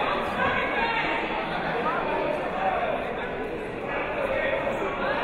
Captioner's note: chattering